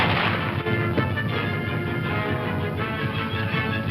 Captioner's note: gun firing; upbeat dramatic music